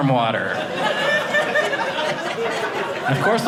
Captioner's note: audience laughing